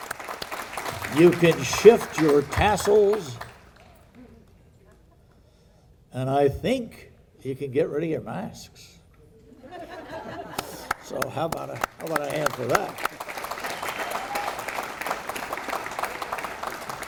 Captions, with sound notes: You can shift your tassels and I think you can get rid of your masks. (people laughing) So how 'bout a, how 'bout a hand for that? (audience applauding)